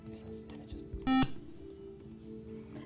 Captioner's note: buzzer